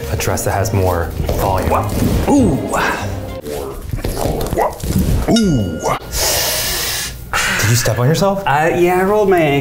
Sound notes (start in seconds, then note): 2.2 groaning